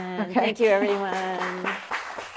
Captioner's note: audience clapping